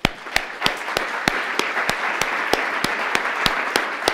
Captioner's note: applause